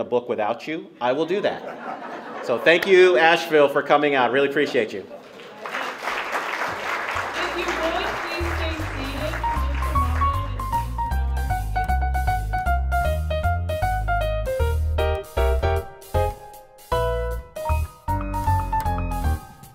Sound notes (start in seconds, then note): 5.2 applause; 9.8 closing music